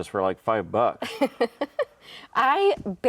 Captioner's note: laughs